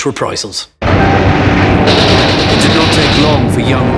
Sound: plane buzzing; gun roaring

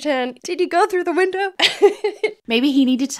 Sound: laughing

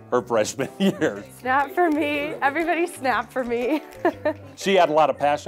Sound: laugh

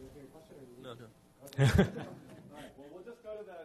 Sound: audience laughs

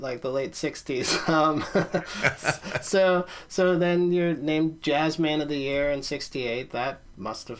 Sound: laughs

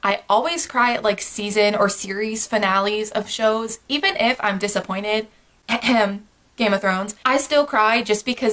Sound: cough cough

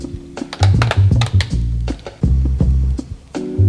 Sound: plastic lid cracking open

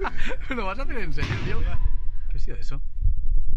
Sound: laughs; loud bang

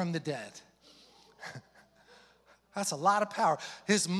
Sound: pastor chuckling

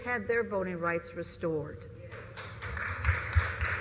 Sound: applause

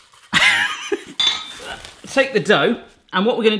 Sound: laughs

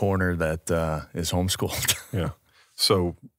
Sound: chuckles

